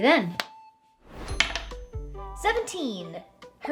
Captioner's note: bright music; die clacks